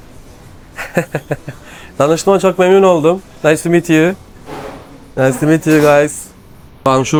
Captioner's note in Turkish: kahkaha